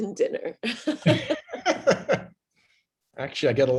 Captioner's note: laughter